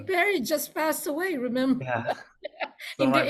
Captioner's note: laughs